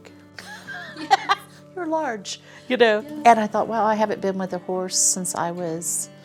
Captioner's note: laughs